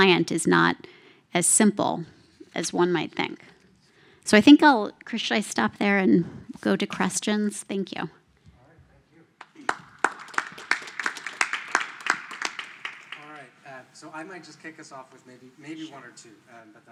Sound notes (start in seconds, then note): 9.4 applause